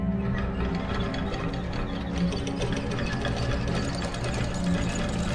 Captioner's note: noises of mechanisms